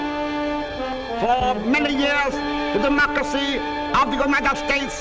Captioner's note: voiceover